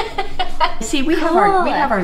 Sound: laughing

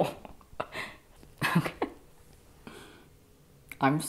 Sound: laughing nervously

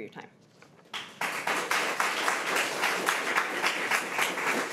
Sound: crowd clapping

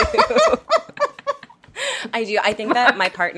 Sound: laughs

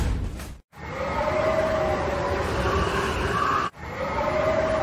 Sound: blizzard Winds Howling

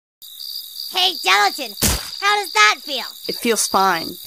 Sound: splat

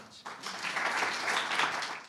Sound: audience applauding

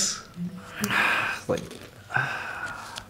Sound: sighs

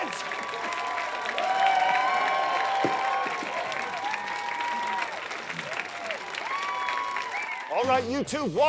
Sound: audience applause

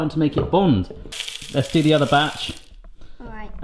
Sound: nibs rattling

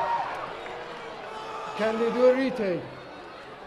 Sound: cheering

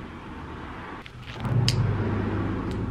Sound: glove snaps

